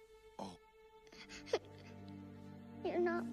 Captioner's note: quiet sobbing